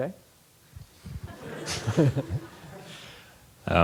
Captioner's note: laughter